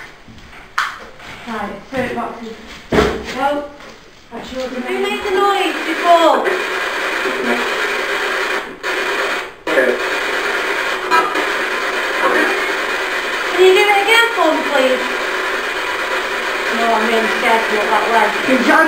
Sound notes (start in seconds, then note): 7.2 spirit box white noise